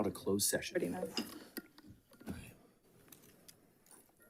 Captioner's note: faintly speaking